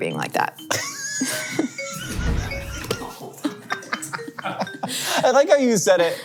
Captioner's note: laughs; crew laughs